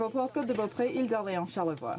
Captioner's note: speaking French